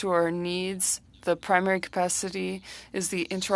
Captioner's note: speaking French